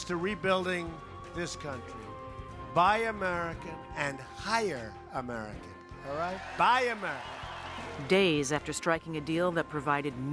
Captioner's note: cheers